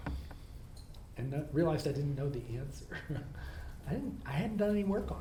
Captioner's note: laughs